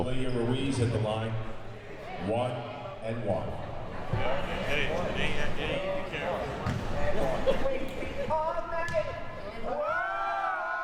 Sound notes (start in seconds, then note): 4.9 audience chattering and yelling